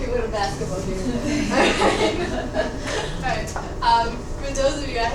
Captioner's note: students laughing